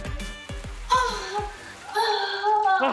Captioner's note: Pooja moaning